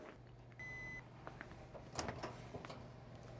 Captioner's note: oven beeps